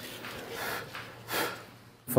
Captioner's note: blowing